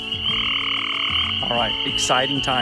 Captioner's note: frogs chirping